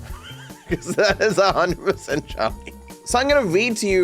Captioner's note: laughs